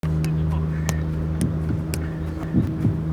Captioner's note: ball thuds